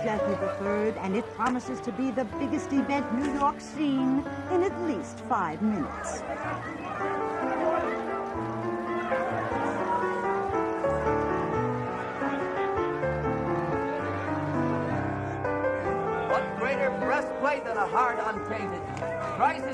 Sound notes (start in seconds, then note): 7.3 crowd shouting; 9.0 gentle piano music